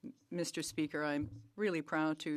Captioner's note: speaking French